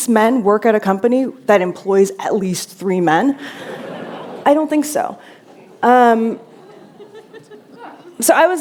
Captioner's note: laughter